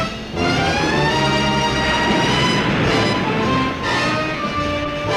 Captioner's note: waves crashing